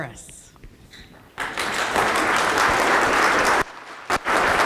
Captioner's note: applause